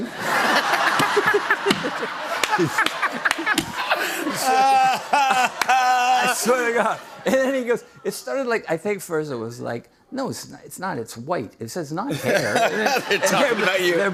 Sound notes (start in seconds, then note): 0.0 laughter; 4.1 laughs